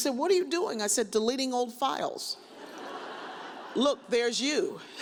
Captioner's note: audience laughs